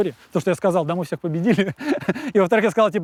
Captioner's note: laughs